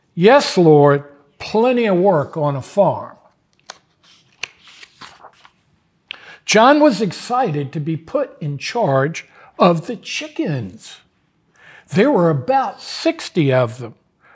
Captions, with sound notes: Yes, Lord, plenty of work on a farm. (pages rustling) John was excited to be put in charge of the chickens. There were about sixty of them: